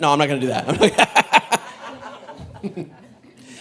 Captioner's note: laughs